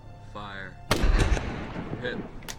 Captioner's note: gunshot